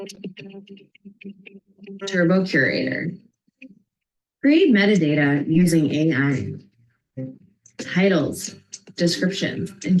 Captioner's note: audio is choppy